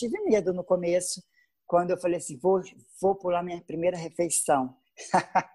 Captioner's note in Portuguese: risos